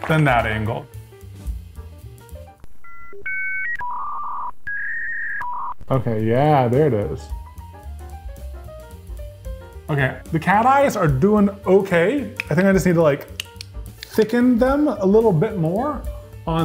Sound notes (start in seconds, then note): 2.7 dial up whirring